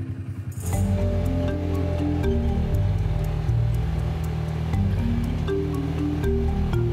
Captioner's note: upbeat music; motor humming